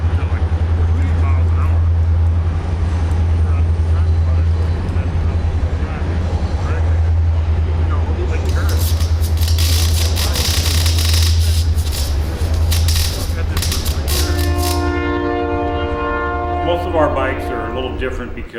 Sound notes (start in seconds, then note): 0.5 train sounds; 8.4 welding sounds; 13.8 train blares